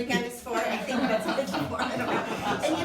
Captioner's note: laughing